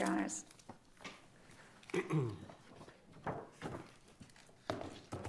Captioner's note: pages rustling